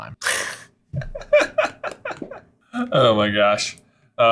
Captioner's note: laughing